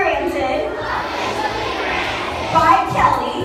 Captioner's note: children in Unison